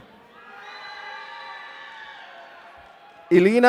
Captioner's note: audience cheering